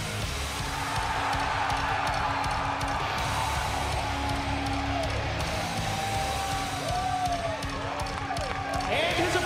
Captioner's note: crowd cheering